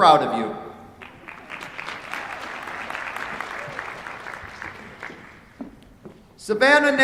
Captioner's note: applause